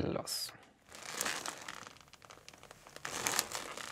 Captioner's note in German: Rhythmisches Rascheln